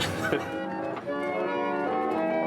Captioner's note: laughs; player piano music